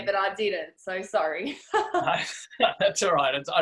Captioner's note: laughs heartily